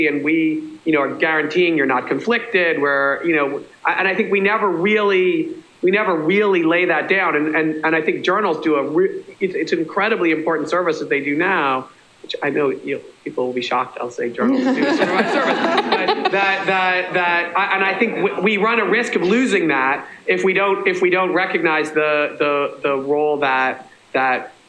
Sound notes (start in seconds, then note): 16.2 laughter